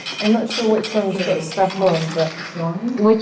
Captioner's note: scraping sound